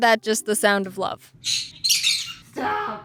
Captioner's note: more weird screeches